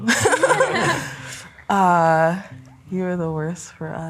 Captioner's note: pair laughing